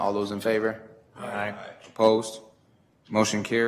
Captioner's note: multiple voices